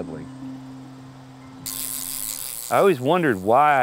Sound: reel spins

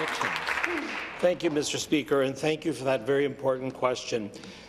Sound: applause

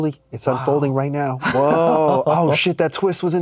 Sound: laughs

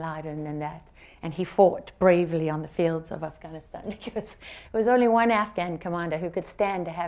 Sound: laughs

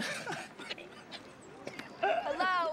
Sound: laughing

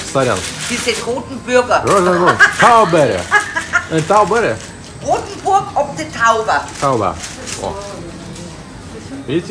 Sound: немецкая речь

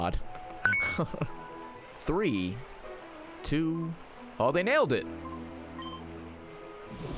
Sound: laughs

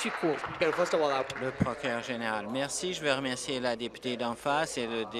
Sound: applause

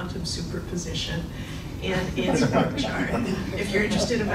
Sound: laughing

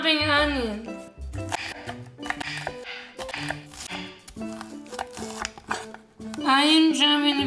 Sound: chopping

